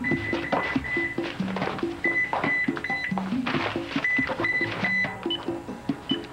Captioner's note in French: Signal du bipeur